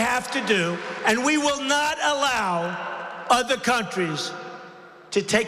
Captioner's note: applause